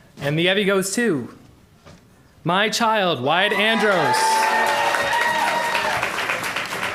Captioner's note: applause